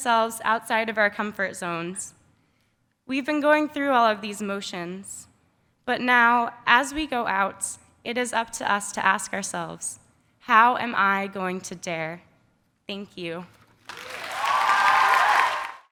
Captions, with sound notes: thrusting ourselves out of our comfort zones. We've been going through all of these motions, but now, as we go out, it is up to us to ask ourselves, "How am I going to dare?" Thank you. (applause) (cheers)